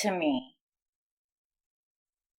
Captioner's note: silence